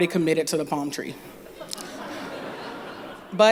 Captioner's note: laughter